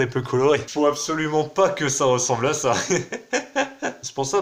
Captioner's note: laughs